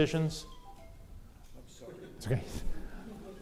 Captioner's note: phone ringing; audience laughing